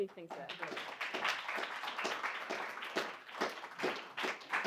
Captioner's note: applause